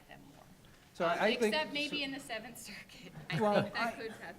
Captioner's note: chuckles